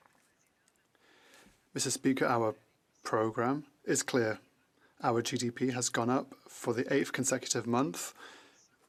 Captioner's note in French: voix de l'interprète